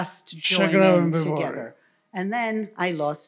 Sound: foreign language

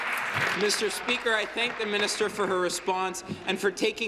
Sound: applause

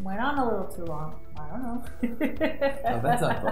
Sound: laughs

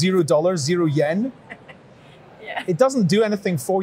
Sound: laughing

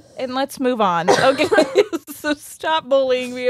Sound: coughs; laughs

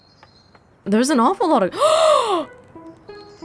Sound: gasps

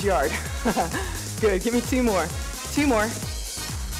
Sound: laughs

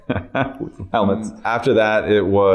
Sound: chuckles

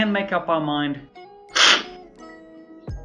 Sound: slurping

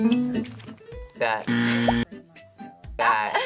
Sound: upbeat music; buzzer rings; laughs

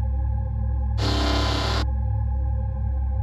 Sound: robot sound effect

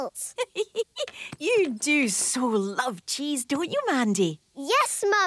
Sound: giggling

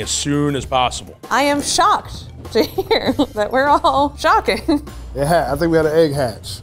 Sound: laughs

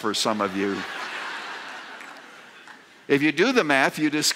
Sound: laughter

